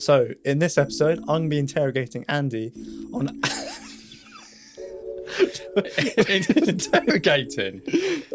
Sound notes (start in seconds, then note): 3.3 both laughing